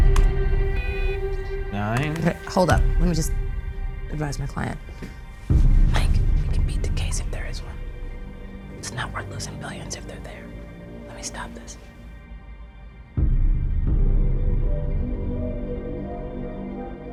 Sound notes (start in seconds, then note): 0.0 computer keys clacking; 0.7 computer beeps; 13.4 tense music continues